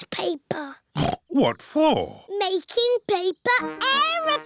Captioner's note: snorts